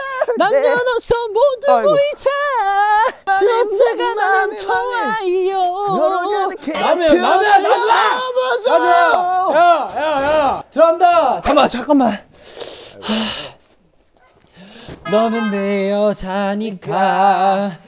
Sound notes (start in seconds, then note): 6.6 making ruckus at the door; 14.4 taking a deep breath